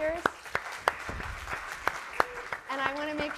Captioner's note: audience applauding